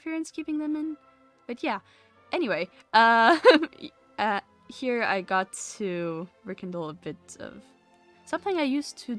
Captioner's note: laughs